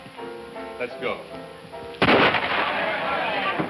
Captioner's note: loud gunshot